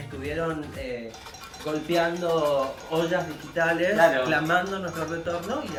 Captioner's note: knocking pots